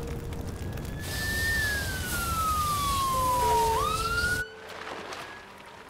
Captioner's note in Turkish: Siren sesi çalıyor